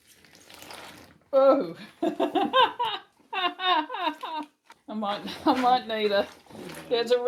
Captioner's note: lots of laughing